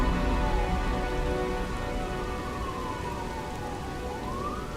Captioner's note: distant sirens